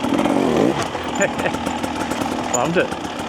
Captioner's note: laughs